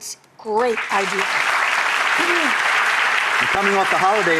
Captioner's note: audience applauds